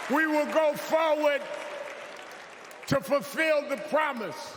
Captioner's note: cheers and applause